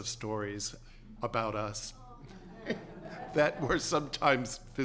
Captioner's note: laughter